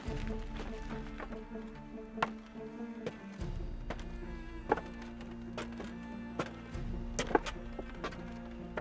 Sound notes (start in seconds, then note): 0.8 tense orchestral music continues; 2.4 footsteps clattering